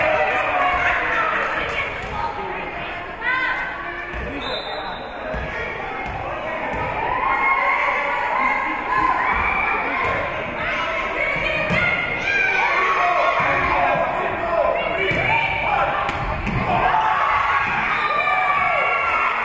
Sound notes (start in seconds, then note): 4.4 whistle being blown; 11.8 spectators shouting encouragements; 16.6 spectators cheering; 17.9 whistle being blown